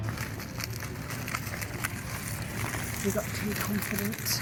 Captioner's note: gravel crunching